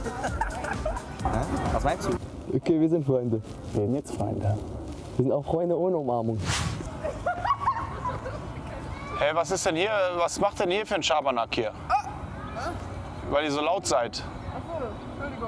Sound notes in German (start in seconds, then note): 7.0 Frau lacht